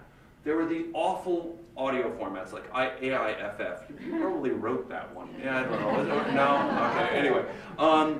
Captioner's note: laughter